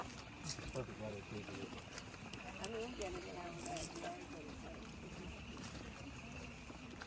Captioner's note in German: Frühlingspuckfrösche quaken